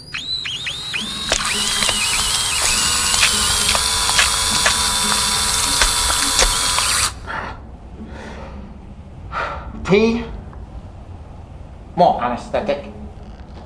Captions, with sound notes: (drill buzzing) - (sighs) T? More anesthetic.